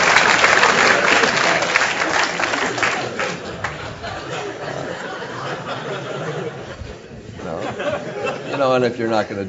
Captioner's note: applause